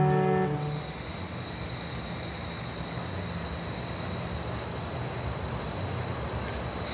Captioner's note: divers breathing deeply